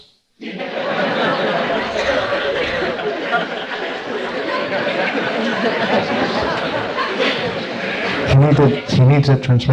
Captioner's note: laughter